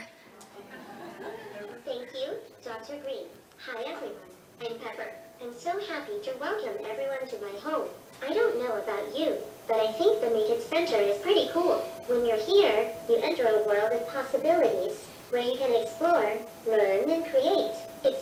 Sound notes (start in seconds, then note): 2.0 audience laughs; 3.3 robotic voice